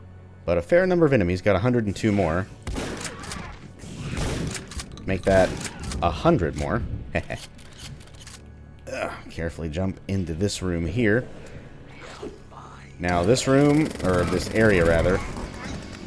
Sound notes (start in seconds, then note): 2.6 shotgun blast; 5.3 more Shotgun blasts; 8.8 grunts